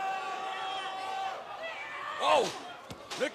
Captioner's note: cheers and applause